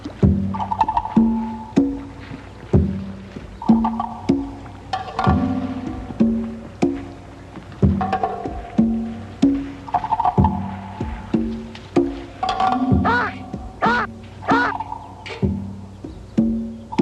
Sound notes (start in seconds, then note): 13.8 baboon shouting